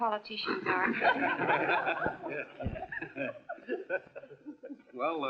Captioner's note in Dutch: lachen